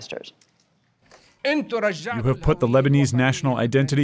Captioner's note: through translator